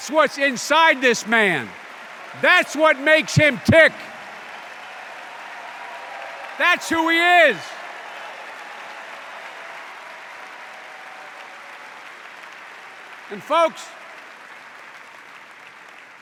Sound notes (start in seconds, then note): 4.9 extended cheers and applause